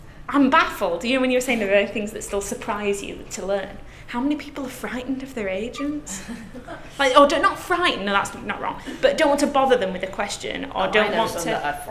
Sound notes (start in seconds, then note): 6.0 soft laughter from class